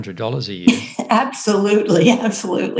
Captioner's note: chuckles